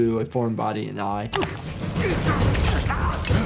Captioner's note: contestants grunting; blade slicing